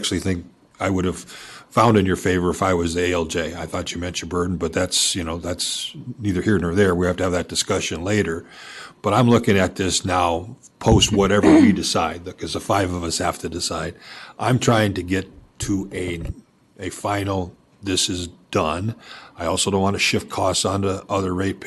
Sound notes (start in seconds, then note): 11.2 clears throat